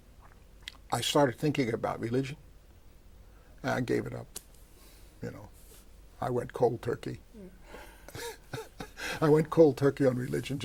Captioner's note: laughs